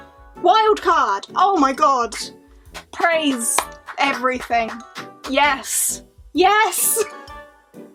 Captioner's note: claps